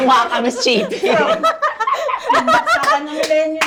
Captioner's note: everyone laughs